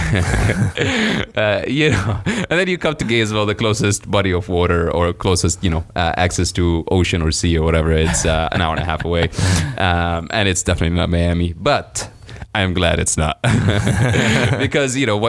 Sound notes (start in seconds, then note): 0.0 laughing; 7.8 laughing